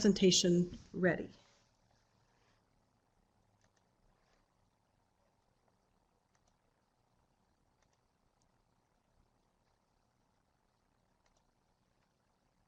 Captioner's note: no sound - pulling up presentation on the screen